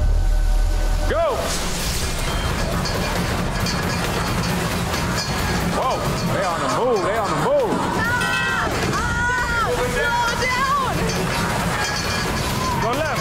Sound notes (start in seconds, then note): 2.0 metal clanking; 2.0 water rushing; 11.1 metal clanking; 11.1 water rushing